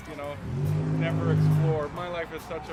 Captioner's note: loud car passes